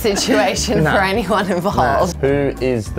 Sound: laughing

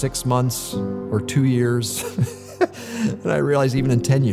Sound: laughter

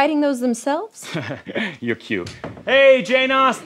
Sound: laughs

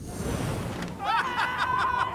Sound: screaming

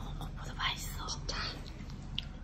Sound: whisper

